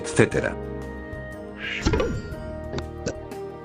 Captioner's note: subscribe pop-up sounds, but slow